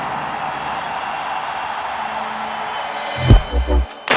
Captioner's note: crowd cheers